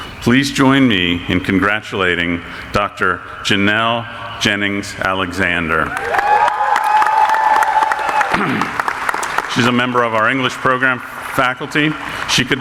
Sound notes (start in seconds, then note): 5.8 audience applauding